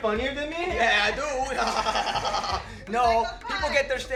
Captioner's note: chuckles